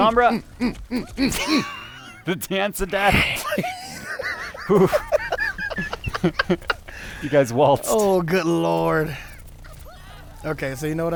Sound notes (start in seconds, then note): 3.4 laughter